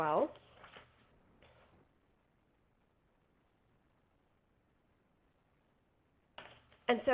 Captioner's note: pause